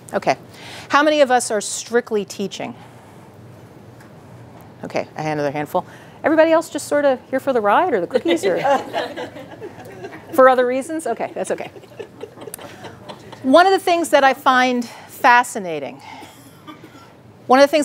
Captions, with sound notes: few, okay. How many of us are strictly teaching? Okay, I had another handful. Everybody else just, you’re for the ride or for the cookies? Or? (laughing) For other reasons? Okay, that’s okay. (audience laughing) One of the things that I find fascinating, one of the things